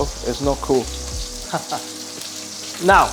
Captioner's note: chuckles